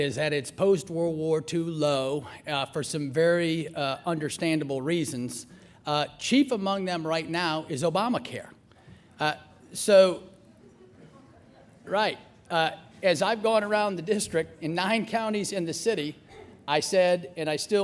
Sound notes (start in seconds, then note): 10.5 laughter